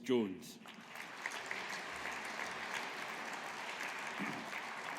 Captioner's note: audience applauding